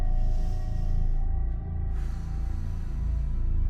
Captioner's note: slow, dramatic orchestral music; inhales; exhales